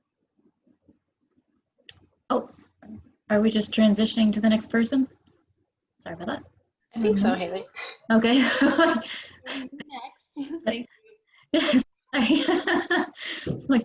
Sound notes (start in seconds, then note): 8.4 laughs